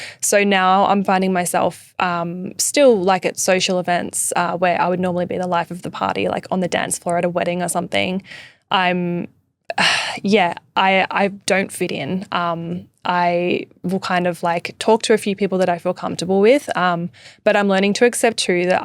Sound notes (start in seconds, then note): 9.8 sighing